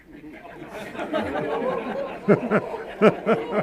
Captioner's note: audience laughs